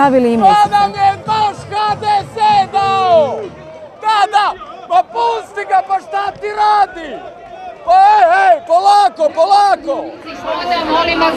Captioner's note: yelling in the background